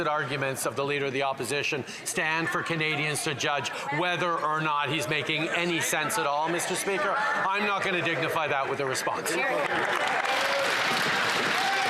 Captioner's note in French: voix de l'interprète